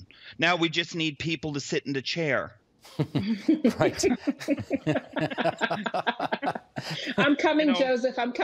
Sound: laughter

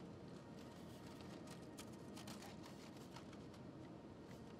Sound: foil crinkling

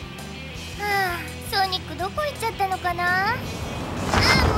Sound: sigh

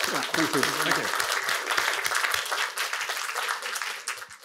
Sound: applause

